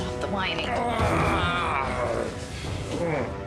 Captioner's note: groaning